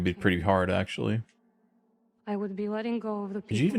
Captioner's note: silence